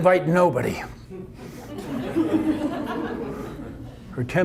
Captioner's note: audience laughter